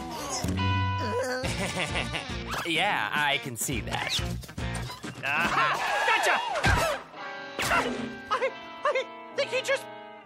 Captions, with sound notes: (CHUCKLES) YEAH, I CAN SEE THAT. A-HA! GOTCHA! I-I THINK HE JUST PUNCHED ME.